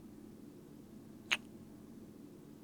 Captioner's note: kiss